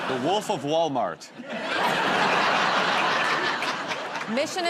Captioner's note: laughter